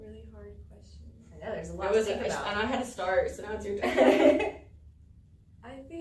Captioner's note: all laugh